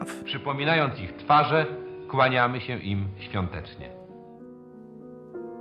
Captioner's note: speaking Polish